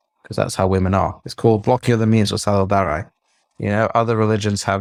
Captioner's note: foreign language